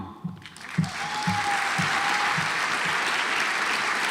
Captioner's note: audience applauds